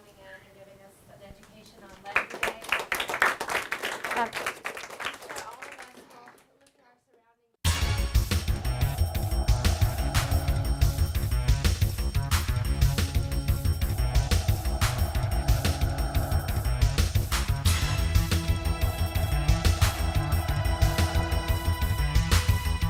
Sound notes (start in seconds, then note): 1.9 applause; 7.7 closing music